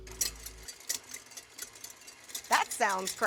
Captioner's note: mixer noises